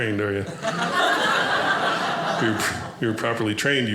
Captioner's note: audience laughing